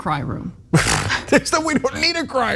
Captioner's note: laugh